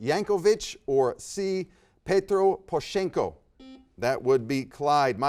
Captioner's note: buzzer beeps